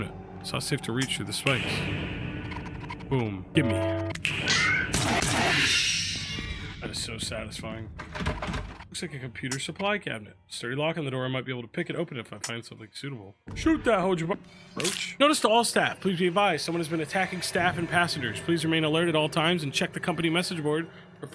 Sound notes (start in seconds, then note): 4.3 creatures shriek; 4.8 gun fires